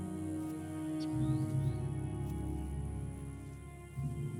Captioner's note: birds trilling